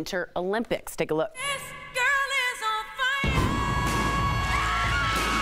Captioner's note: screaming